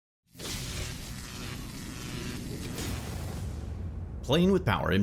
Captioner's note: electric buzzing